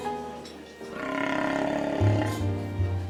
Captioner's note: stomach growling